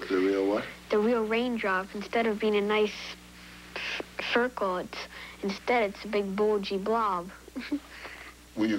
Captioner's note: laughs